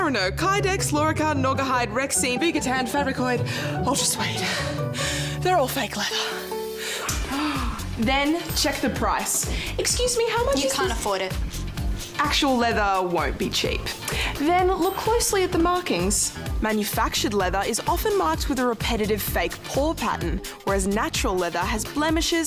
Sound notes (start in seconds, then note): 6.7 gasps